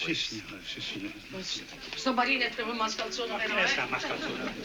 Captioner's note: speaking Italian